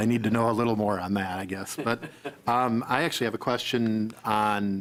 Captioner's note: laughing